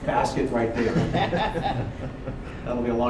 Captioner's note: laughter